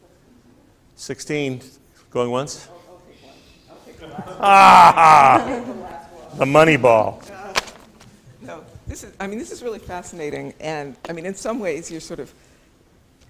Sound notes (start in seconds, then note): 4.0 laughs